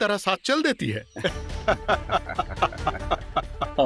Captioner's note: laughing